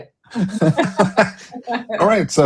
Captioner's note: laughter